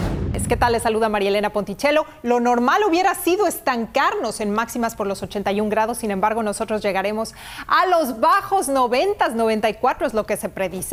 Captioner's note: speaking Spanish